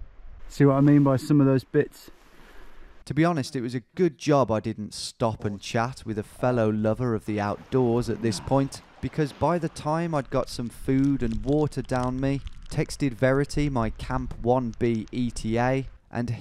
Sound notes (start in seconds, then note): 3.1 voiceover